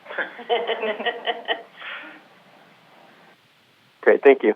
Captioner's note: panel laughing